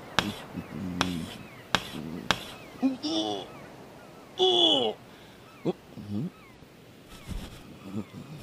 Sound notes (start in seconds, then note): 0.1 wood scraping; 2.6 gut pain thunder